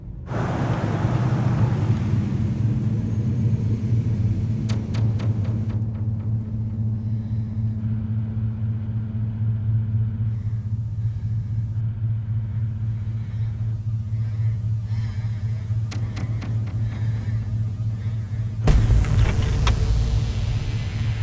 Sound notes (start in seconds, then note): 0.8 ominous music; 5.9 Ellie breathes uneasily; 18.6 intense music